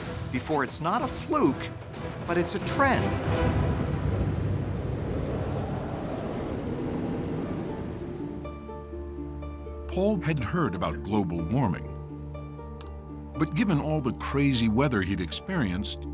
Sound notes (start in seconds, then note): 3.1 wind whipping